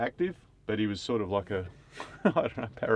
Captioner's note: laughs